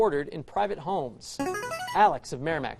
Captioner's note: buzzer